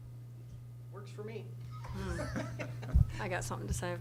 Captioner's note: laughter